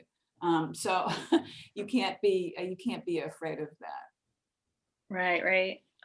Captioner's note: laughs